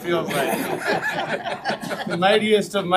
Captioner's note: crowd laughing